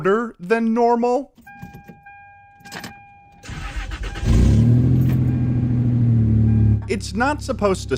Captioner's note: dubious car noises